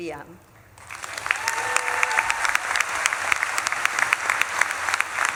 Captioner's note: audience claps and cheers